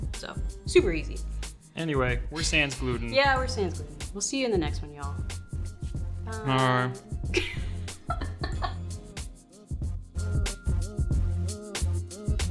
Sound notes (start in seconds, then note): 7.3 laughs; 9.1 gentle upbeat music